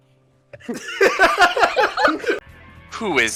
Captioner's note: laughter